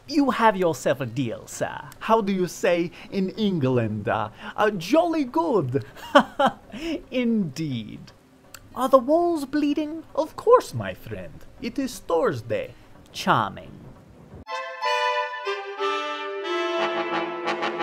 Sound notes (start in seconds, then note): 5.8 laughs; 14.4 classical music